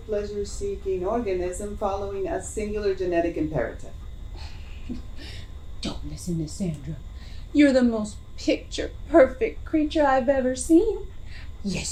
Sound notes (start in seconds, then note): 4.3 huffs